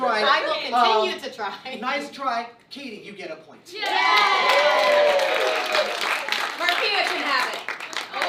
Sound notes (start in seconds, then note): 3.8 cheering